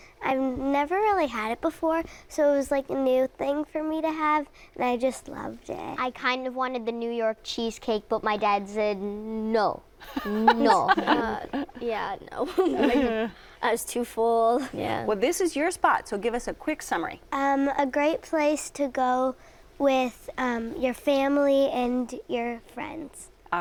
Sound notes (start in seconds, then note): 10.0 laughing; 12.6 laughter